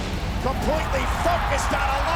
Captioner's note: crowd cheering